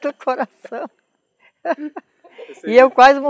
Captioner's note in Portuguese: risos